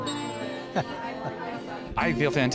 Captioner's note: laughs